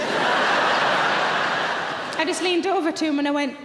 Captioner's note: audience laughing